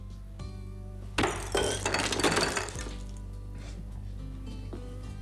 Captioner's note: glass crunching